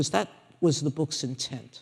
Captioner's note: none